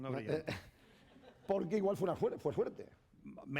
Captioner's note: speaking spanish; speaking spanish